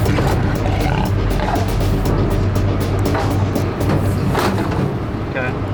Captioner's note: water bowl rattling; lion rumbling